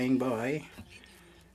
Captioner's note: speaking French